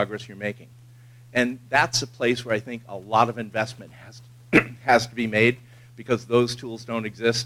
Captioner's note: cough